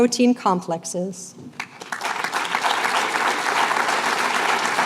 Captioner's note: applause